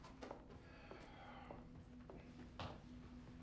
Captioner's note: Ben sighs; gentle music